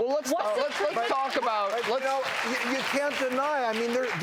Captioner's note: applauding